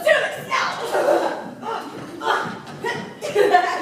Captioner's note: laughter